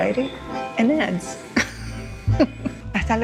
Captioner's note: laughing